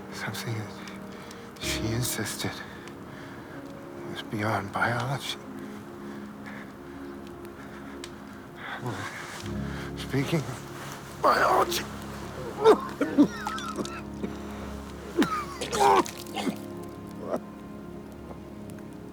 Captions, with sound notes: something that she insisted was beyond biology. Speaking of biology (Preston coughing). (Preston vomiting)